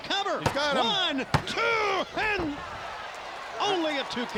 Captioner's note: hand pounding